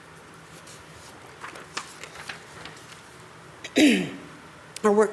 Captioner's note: paper rustles